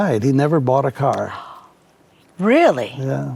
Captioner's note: gasps